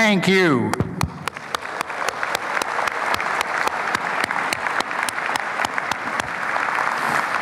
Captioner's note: applause